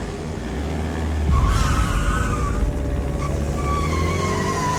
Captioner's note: tires squealing